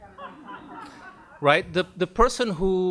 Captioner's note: audience laughs